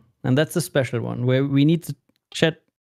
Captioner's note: none